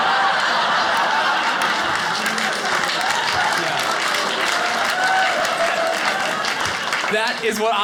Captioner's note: audience laughing; audience applauding